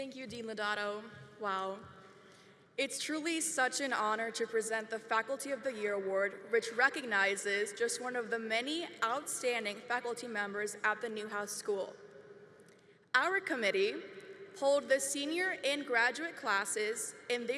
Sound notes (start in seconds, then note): none